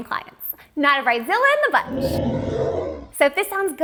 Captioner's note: dinosaur roaring